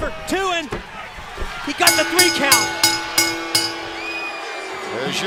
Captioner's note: bell ringing; crowd cheering